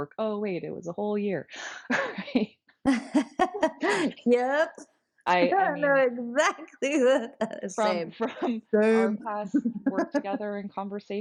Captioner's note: laughter